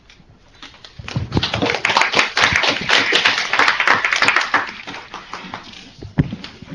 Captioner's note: applause